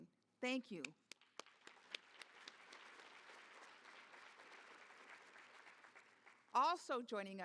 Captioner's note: applause